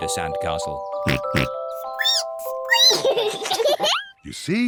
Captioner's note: oinks; squeaks; both giggle